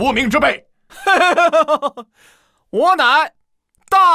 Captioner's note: chuckles